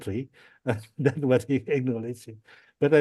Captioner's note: laughs